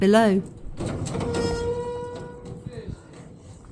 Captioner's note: gate creeking open